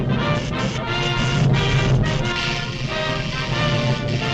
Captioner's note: triumphant music; electricity zaps